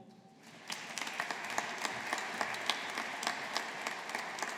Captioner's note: audience applauding